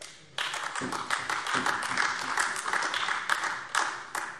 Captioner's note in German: Beifall AfD